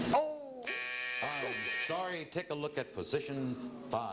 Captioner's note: buzzer